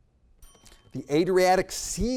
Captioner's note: bell dings